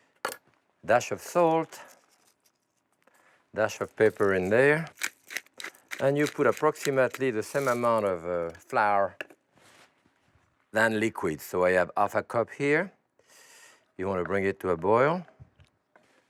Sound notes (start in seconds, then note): 3.7 pepper mill grinding